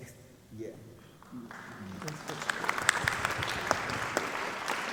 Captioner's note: audience clapping